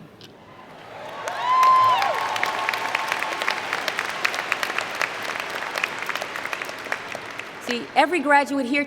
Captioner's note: applause & Cheer